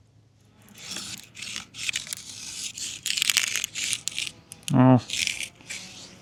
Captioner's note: marker scraping